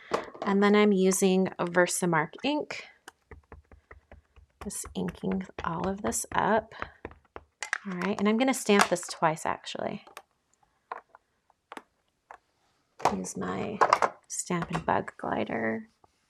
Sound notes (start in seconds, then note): 3.1 ink thumping